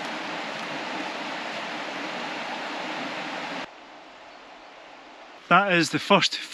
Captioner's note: swoosh